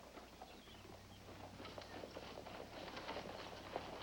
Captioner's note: horses Approaching